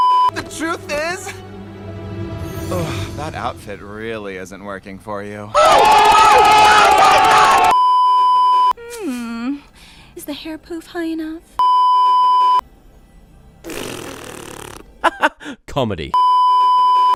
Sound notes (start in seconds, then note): 13.6 raspberry